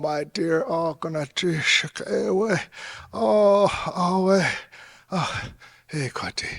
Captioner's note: speaking in foreign language